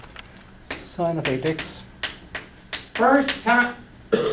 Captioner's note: voiceover